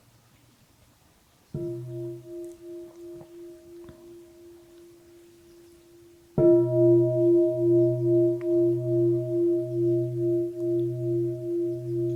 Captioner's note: bell